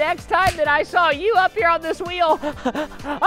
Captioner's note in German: chuckles